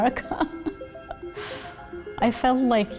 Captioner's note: laughs